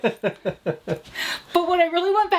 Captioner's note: laughs